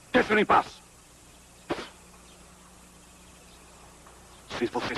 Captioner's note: spits